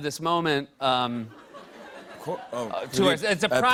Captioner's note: laughter